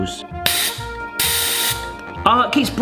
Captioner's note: gas hissing